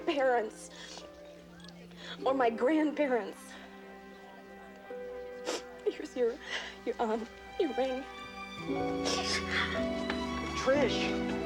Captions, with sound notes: Ask my parents or my grandparents. [sniffling] Here's your-- your, um-- your ring.